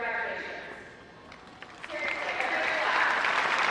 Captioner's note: audience applauds